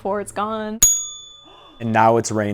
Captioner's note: ding